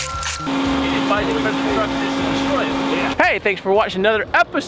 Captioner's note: winch engine drowns out speakers